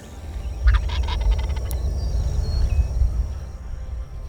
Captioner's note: turkey gobbling